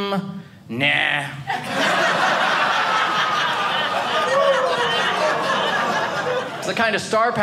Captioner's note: audience laughing